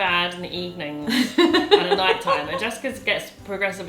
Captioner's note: laughs